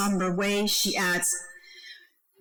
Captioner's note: speaking foreign language